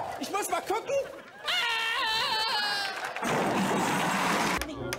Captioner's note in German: Applaus